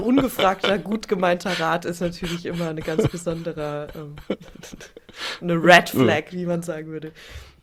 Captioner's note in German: gelächter; gelächter